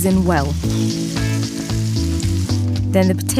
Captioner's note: pan sizzles